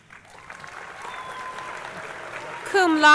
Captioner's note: crowd cheering